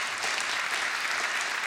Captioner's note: applause